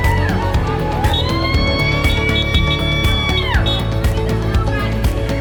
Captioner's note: horns honking; crowd cheering